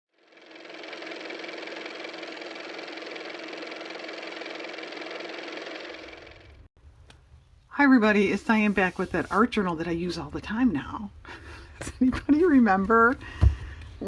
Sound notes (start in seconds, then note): 6.5 car motor; 11.2 laughs